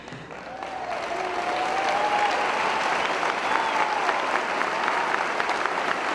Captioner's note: cheering & Applause; applause